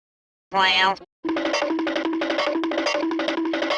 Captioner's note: cartoon Running SFX